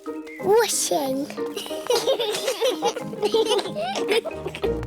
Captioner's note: children giggling